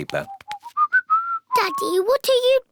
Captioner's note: whistling